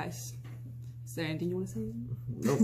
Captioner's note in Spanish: Risas